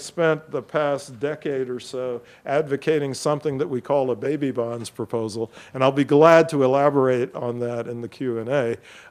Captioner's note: none